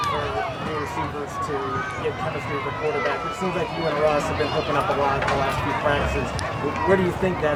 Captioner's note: crowd cheering